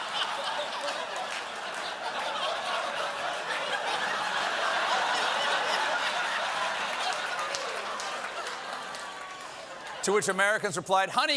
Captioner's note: laughter